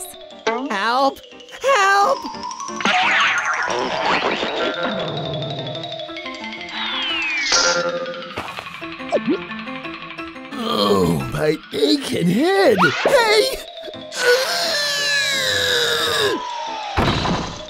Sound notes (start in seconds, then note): 14.1 screams